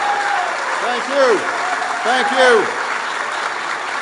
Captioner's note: applause